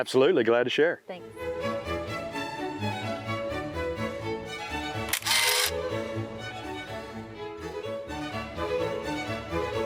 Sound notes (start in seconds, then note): 1.2 bright music; 5.0 camera shutter clicking